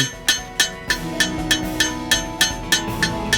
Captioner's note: hammering